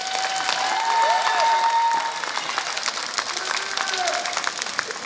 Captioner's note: applause